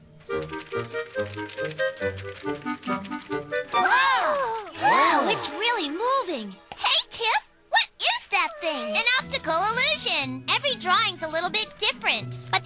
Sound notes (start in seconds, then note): 0.0 papers rustling; 4.2 all gasp